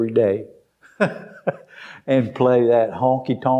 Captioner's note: laughs